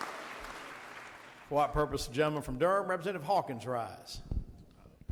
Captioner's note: audience applause